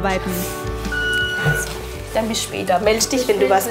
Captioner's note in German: Piepsen